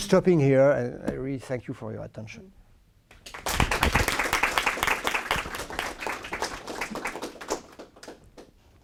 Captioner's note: applause